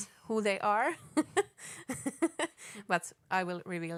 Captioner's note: laughing